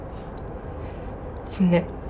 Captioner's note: none